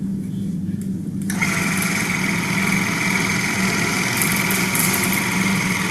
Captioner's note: electric toothbrush running